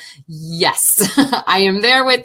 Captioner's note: laughing